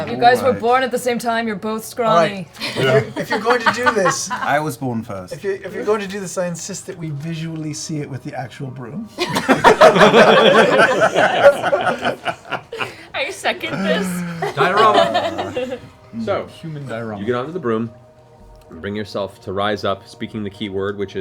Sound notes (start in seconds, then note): 9.2 laughter